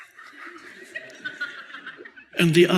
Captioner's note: audience laughs